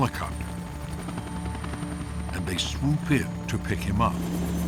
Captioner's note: helicopter blades whirring